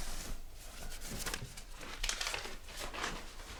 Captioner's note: rustling paper